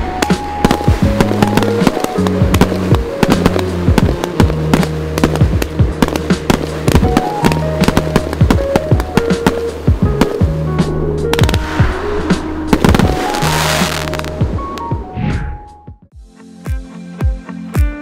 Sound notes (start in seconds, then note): 0.1 fireworks crackling; 13.3 fireworks crackling; 15.0 screen whooshes